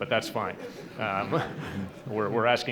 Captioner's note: laughter